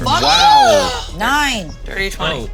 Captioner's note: moans